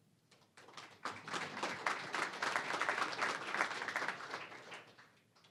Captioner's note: applause